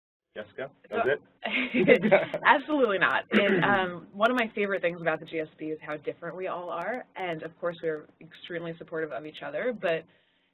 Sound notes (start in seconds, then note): 3.2 laugh